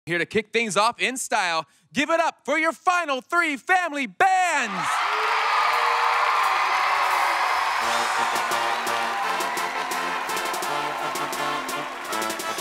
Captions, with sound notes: - Here to kick things off in style, give it up for your final three family bands! (audience cheers) (upbeat music)